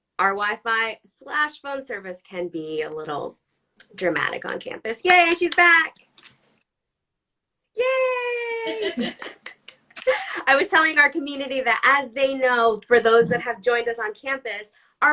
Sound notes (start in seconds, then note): 7.0 claps; 8.2 laughs; 8.3 claps